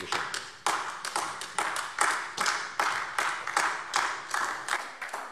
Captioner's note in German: Beifall AfD